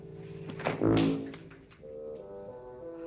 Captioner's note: thud